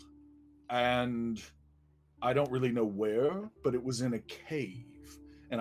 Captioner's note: none